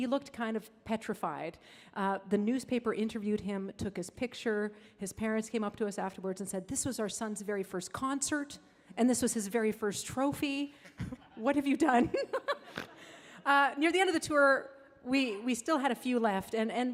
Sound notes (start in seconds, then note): 12.0 laughs; 13.0 audience laughing